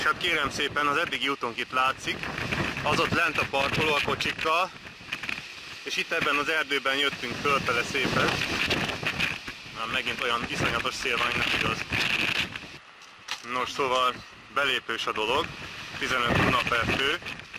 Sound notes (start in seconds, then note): 9.4 the wind is terrible again